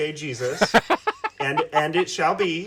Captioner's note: amused laughing